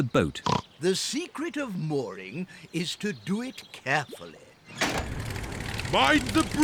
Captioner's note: oinks